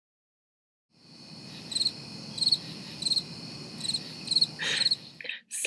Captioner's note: crickets chirping